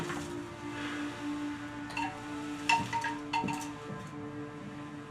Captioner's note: wind chime